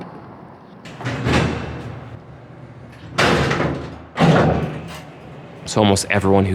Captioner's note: door closing